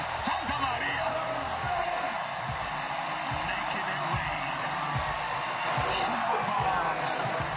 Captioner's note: cheering